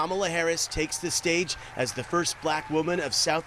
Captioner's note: applause